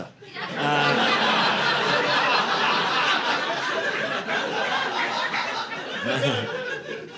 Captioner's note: audience laughing